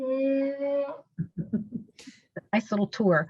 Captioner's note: laughs